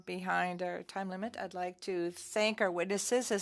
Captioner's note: speaking French